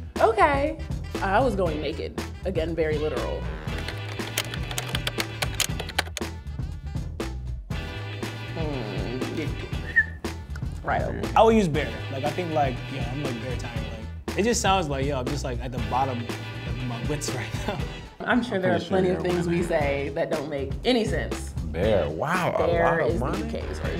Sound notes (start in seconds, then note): 3.7 typing; 4.2 upbeat music; 9.8 whistles